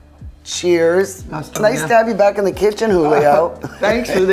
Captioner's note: laughs